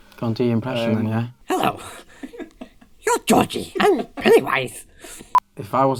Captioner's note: in a mock Pennywise voice